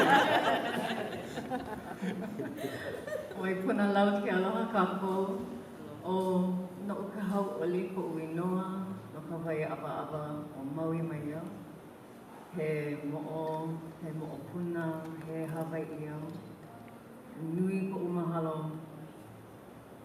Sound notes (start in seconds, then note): 0.0 laughter; 3.3 speaking hawaiian